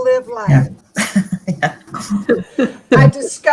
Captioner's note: laughing